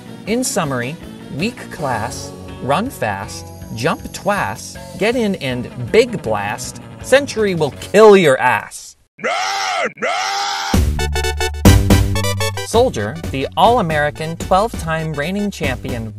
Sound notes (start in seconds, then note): 9.2 bahamian hollering